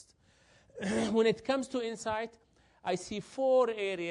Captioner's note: cough